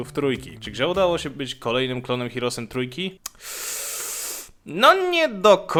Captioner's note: heavy breath of discomfort